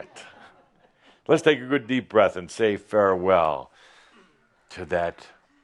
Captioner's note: some chuckles